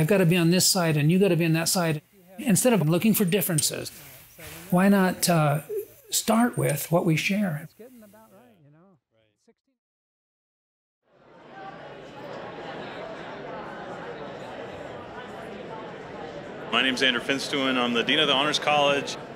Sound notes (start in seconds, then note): 11.2 voices as people gather